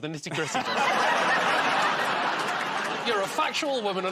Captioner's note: laughter